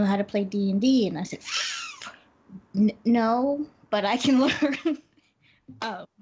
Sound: inhales; laughs

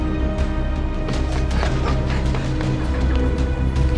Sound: panting

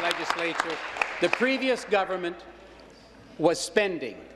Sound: applause

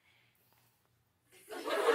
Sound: laughter

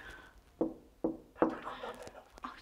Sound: knocks

